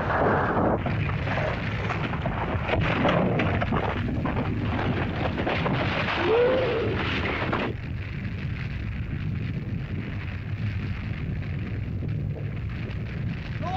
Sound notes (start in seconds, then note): 0.0 rocks bang & clatter; 0.8 earth rumbles; 0.8 fire crackles; 6.2 lizard cries out; 7.7 fire crackles